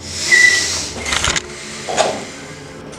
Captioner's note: exhales Sharply